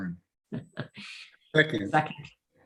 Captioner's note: laughs